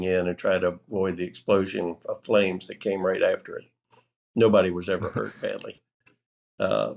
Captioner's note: laughter